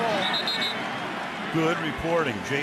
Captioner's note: whistle blows